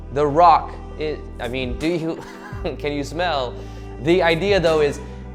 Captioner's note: chuckles